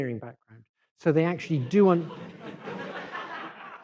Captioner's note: laughter